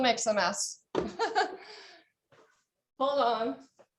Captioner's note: chuckles